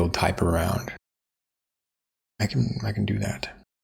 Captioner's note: blank Audio